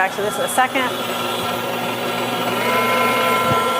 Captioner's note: whisking